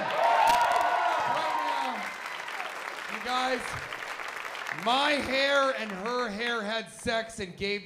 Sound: cheers and applause

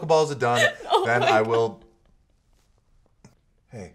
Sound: sobbing

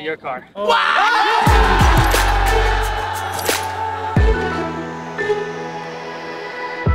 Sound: crowd cheering; upbeat background music

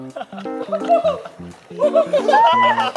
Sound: squealing

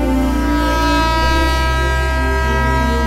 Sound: train horn blares

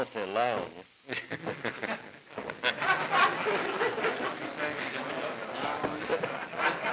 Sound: laughter

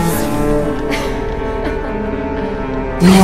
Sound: eerie Laughter

